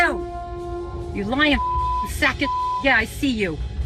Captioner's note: beep